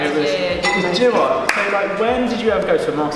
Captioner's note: clanking off-camera